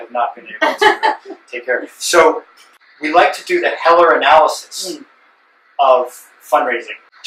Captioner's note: laughter